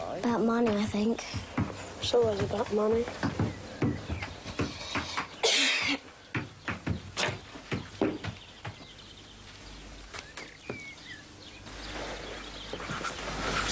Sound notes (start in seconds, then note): 5.4 Bess coughing; 7.7 item thumping